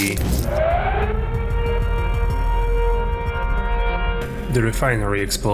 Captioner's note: sound of a siren